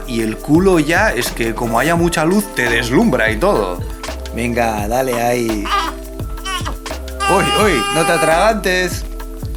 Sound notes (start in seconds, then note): 7.2 cries